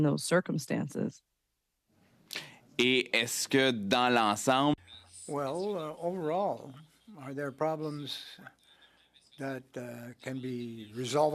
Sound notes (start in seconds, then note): 7.1 speaking French